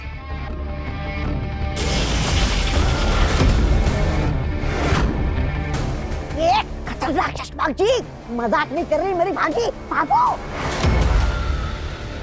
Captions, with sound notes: [fire blazes] Hey, deadly Shashmaag, Aageel isn't joking, go run.